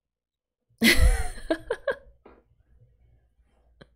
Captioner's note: laughs